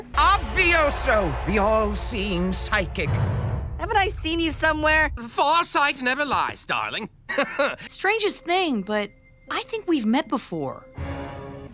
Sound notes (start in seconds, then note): 7.3 nervous cough